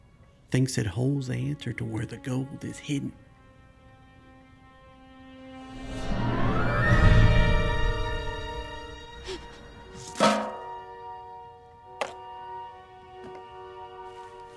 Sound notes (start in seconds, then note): 9.2 gasps; 9.8 clanks